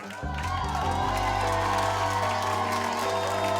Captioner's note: cheering